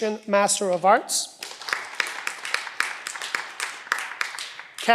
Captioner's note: cheering